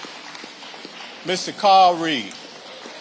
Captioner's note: audience applauding